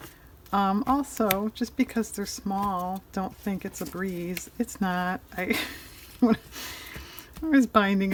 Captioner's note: laughs